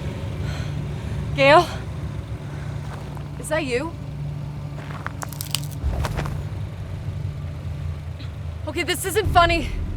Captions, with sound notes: Gale? Is that you? [branch crunching] Okay, this isn't funny.